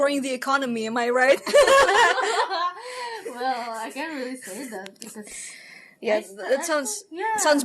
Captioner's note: laughter laughter laughter